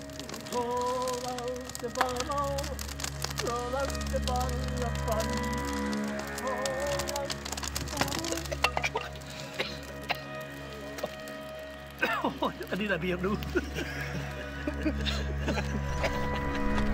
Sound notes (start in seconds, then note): 9.1 coughing; 13.4 laughter